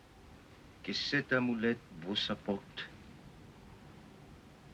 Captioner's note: speaking french